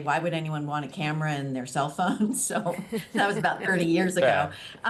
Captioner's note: laughter